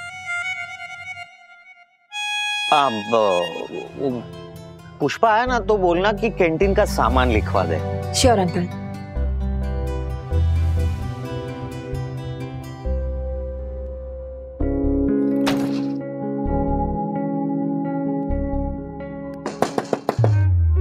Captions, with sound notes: [comical music playing] Erm... When Pushpa returns, tell her to order groceries for the canteen. Sure, Uncle. [pleasant music playing] [door closing] [knocking on door]